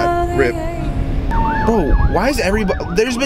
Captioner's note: ambulance sirons